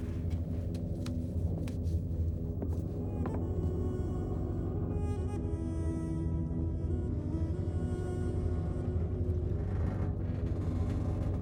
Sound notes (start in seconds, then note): none